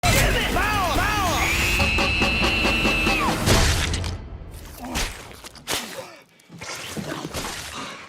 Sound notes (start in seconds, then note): 4.7 squelching sounds